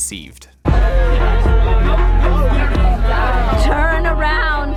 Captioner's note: crowd talking